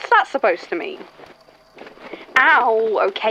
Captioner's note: feathers and fabric rustling